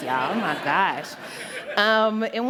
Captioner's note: laughter